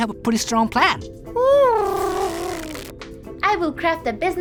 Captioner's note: Huti hoots